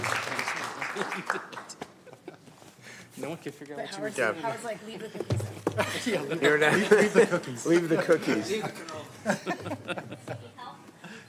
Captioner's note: applause